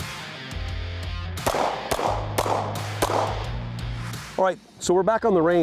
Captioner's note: shots firing; whooshing; shots firing